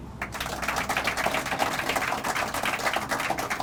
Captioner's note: crowd applauding